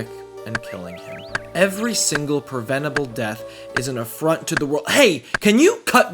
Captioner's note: woodcutting Intensifies